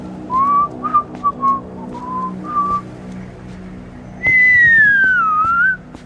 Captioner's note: pedestrian whistling cheerfully